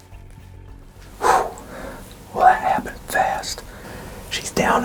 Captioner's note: whispering